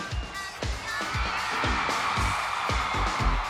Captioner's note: crowd cheers